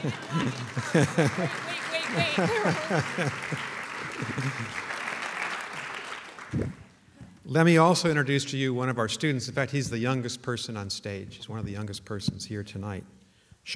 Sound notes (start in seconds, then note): 3.0 applause